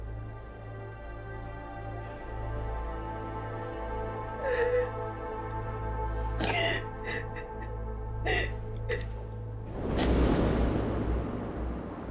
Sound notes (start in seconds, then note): 7.0 crying